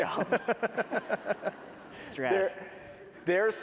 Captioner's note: laughter